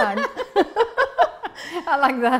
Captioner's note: laughter